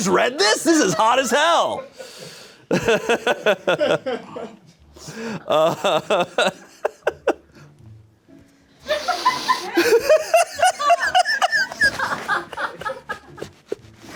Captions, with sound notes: Have you guys read this? This is hot as hell. (laughs)